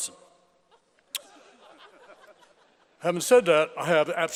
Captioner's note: laughter